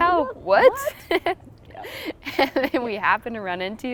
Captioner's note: laughing